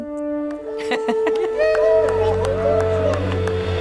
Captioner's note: group cheering; laughing